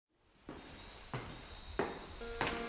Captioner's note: steps on the stairs in the hallway